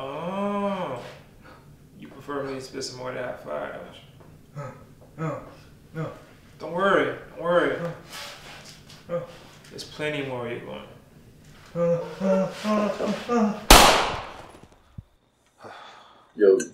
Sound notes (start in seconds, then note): 12.0 man gasping; 13.7 gunshot roaring